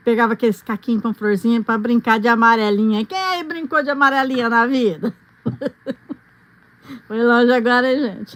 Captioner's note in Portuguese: risadas